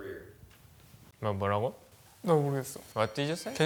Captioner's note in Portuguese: fala em coreano